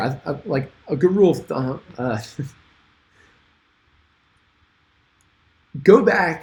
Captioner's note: groans; chuckles